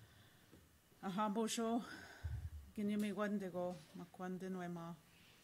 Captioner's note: in Indigenous language for next minute